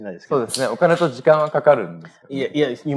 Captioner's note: speaking japanese